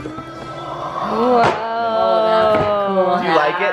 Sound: murmuring

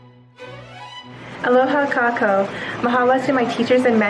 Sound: non-english speech

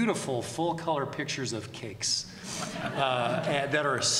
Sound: laughter

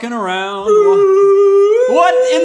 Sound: ominous alien noises

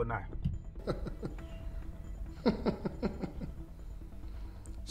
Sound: giggles

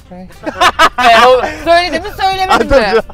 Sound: laughs

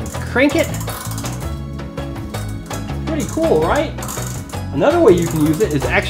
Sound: crank turns

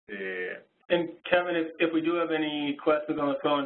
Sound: voiceover

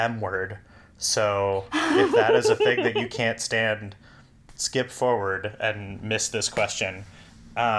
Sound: laughs

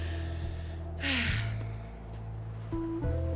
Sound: sighs

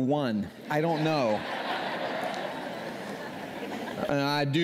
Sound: laughter

